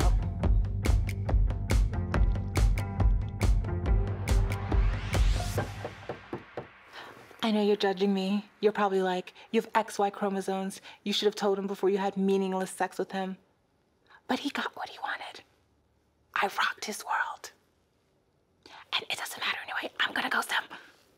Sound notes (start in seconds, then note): 0.0 exciting music; 5.7 knocking at door